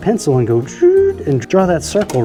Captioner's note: imitates pencil scratching